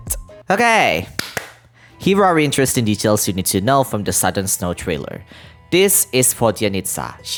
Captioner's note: clap clap